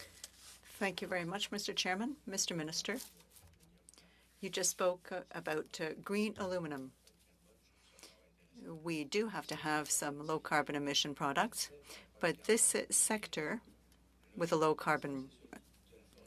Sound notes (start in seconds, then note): 2.8 speaking French